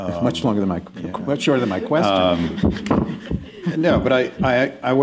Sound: laughter

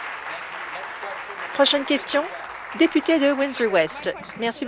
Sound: voice trailing; applause

